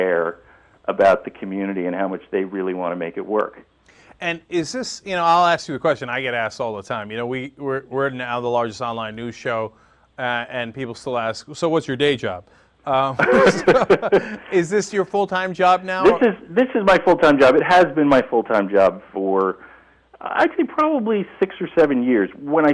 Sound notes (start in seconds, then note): 13.1 laughter